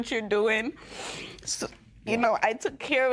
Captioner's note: sniffles